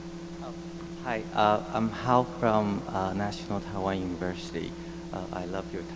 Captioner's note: voiceover